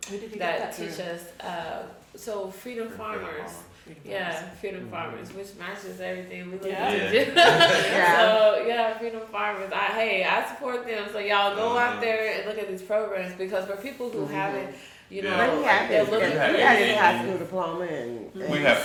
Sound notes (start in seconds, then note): 7.1 chuckles; 7.2 all chuckle